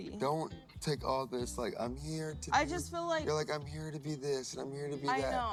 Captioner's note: none